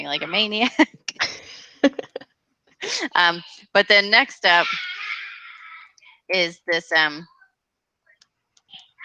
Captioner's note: laughs